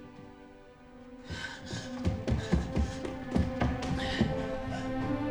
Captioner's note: panting; dramatic orchestral music intensifies